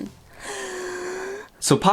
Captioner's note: gasps